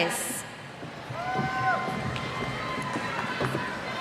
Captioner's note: cheers